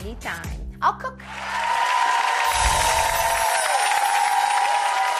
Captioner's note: excited cheering